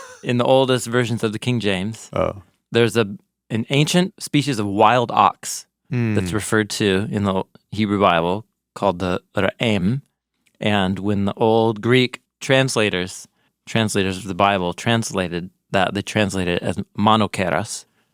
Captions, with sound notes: In the oldest versions of the King James, there's an ancient species of wild ox that's referred to in the Hebrew Bible called (speaking in foreign language) and when the old Greek translators of the Bible translated, they translated as (speaking in foreign language),